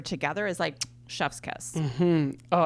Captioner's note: kiss sound